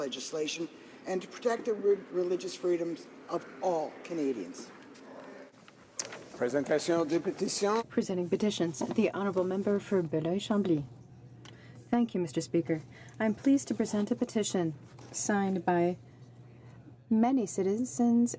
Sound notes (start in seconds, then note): 9.8 speaking French